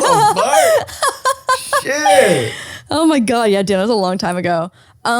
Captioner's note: laughs